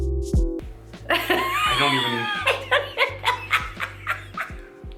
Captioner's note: both laughing